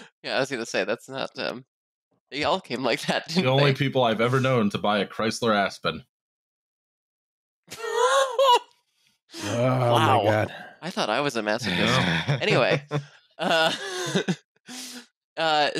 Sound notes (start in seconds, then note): 8.4 laughs; 14.9 laughter